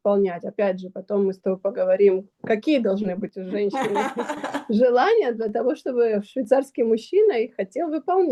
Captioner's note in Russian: смех